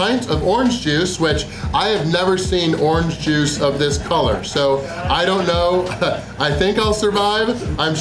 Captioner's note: haha